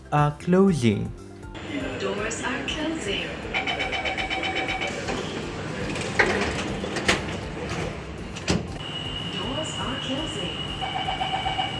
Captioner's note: doors are closing